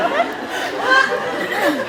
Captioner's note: laughs